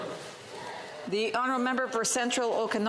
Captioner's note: some Applause